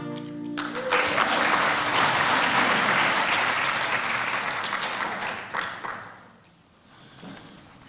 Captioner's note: applause